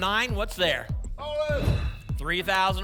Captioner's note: whoosh